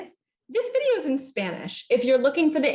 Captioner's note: hablando en inglés